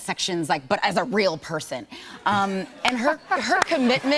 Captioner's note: laughter